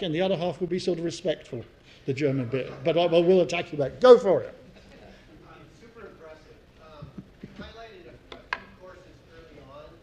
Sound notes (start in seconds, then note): 2.9 laugh